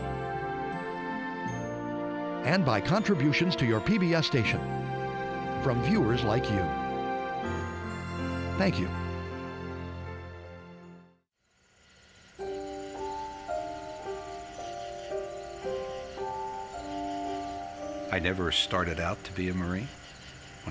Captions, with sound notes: and by contributions to your PBS Station from viewers like you. Thank you. (birds chirping) (slow music) - I never started out to be a Marine.